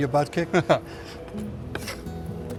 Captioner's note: laughs